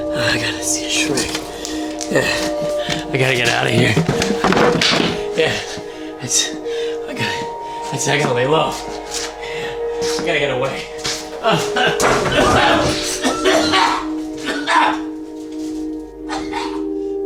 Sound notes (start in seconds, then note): 4.2 objects falling; 13.0 coughs